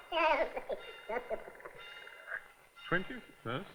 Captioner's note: tape fast forwarding